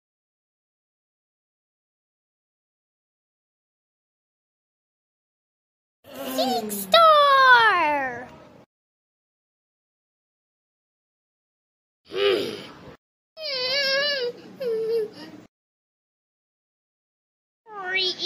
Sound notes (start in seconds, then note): 12.1 sniff Sniff